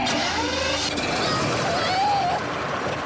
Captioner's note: engine rumbling